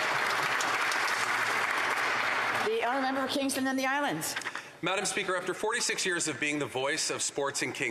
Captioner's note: some Applause